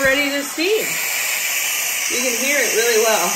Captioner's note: steam hissing